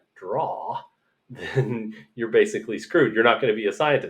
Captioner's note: laughter